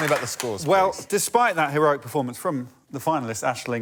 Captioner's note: applause